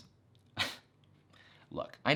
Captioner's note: chuckles